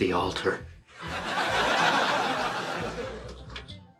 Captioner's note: audience laughs